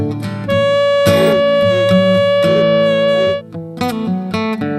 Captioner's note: horn blowing